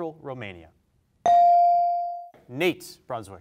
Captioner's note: bell rings